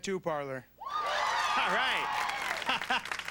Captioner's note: audience cheers